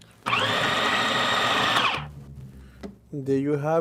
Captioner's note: food processor whines